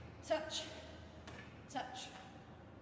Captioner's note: kicks bar